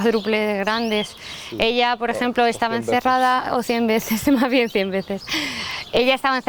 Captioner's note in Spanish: risas